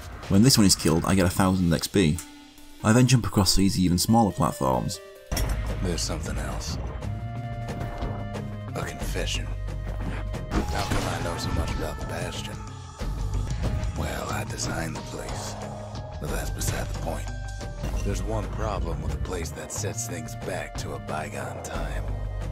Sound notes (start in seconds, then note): 5.2 in-game audio